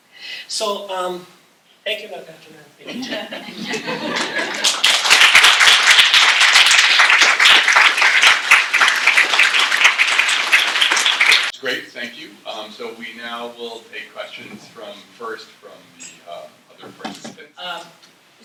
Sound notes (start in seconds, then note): 2.8 laughter; 4.1 applause